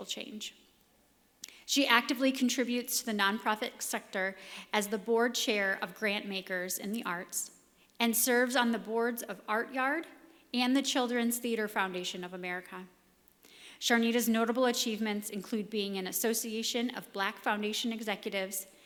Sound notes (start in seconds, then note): none